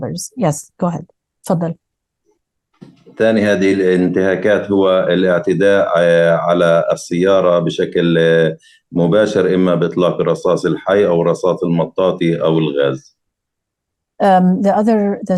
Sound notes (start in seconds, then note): 2.9 speaking arabic